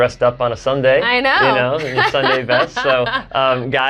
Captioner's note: chuckles